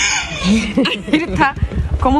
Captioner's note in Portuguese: riem